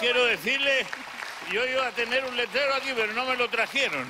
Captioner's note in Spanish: Aplausos